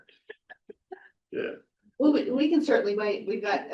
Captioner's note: trustee chuckling